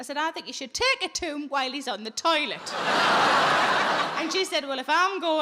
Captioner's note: audience laughing